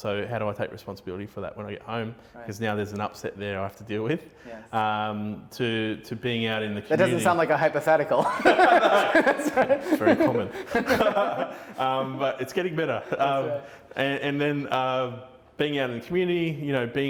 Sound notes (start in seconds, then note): 8.1 laughing